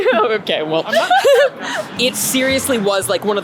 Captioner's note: laughter